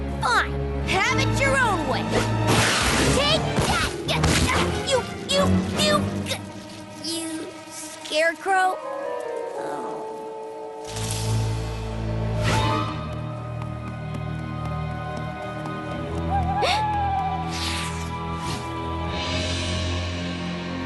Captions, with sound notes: Fine. Have it your own way. Take that, you, you, you... You scarecrow. (bird call) (gasp)